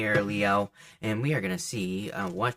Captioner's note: deck thuds softly